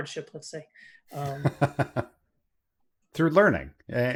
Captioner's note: laughs